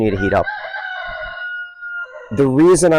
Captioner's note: rooster crowing in background